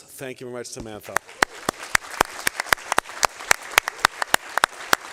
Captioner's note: applause